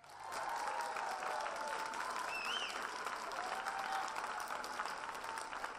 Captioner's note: audience cheers and applause